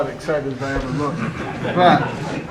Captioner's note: laughter